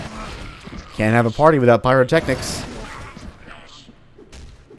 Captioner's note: fwoosh; moar Fwoosh